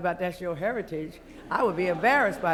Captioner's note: laughter